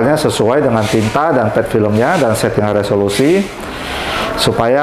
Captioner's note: printer machine sound